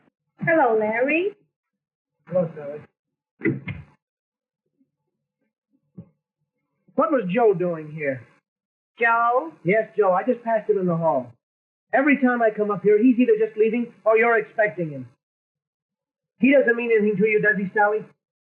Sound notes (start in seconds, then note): 3.4 door shuts